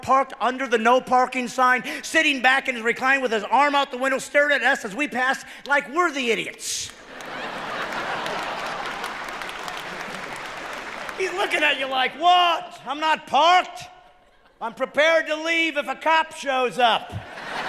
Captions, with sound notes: Am I the only one that's seen this moron at Walmart, parked under the no parking sign sitting back in his recliner, with his arm out of the window, staring at us as we pass, like we're the idiots. [cheering] He's looking at you like, "What ? I'm not parked.